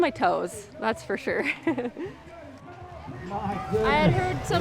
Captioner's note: laughs